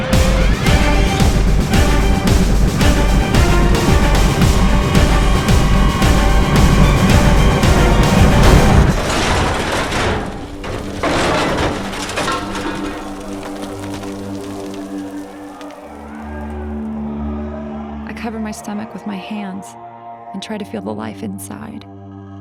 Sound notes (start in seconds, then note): 0.0 fast-paced music; 9.0 crash